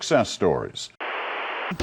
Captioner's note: static